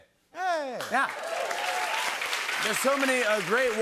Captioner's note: cheers and applause